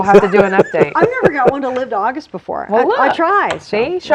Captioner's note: laughing